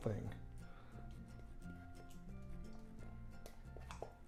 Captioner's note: scraping can